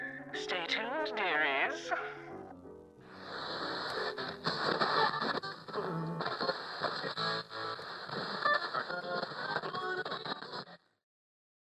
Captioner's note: radio static